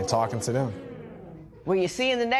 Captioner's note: spectators murmur